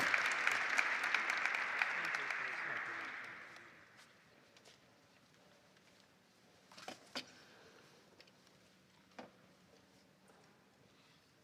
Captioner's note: applause